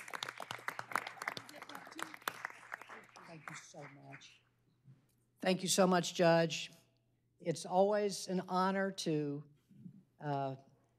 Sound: applause

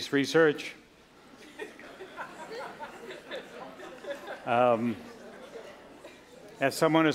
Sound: laughter

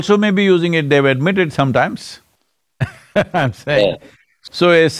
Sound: laughs

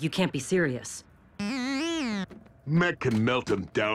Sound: disagreeing buzzing

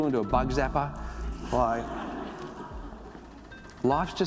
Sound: audience laughs

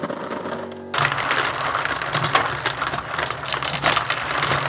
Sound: marbles rolling on the MMX

